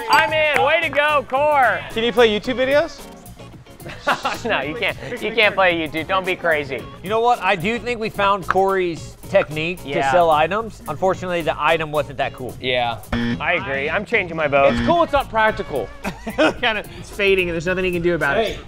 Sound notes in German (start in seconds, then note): 3.7 lacht; 13.1 buzzer; 14.7 lacht